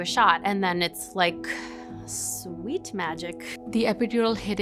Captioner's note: sighs